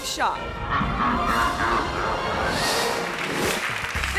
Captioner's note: monster laughs; screen whooshes